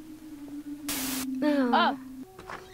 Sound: static

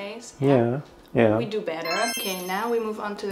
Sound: bells chiming

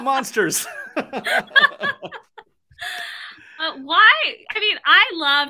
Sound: laughs

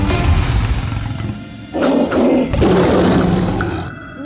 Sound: roaring

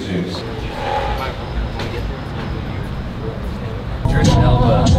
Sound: traffic noises

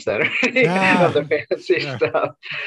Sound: laughs

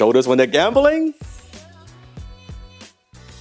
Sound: inhaling loudly; easygoing music

